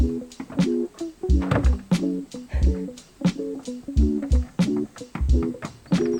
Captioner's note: laughs